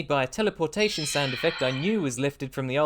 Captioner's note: dungeons & dragons sound effect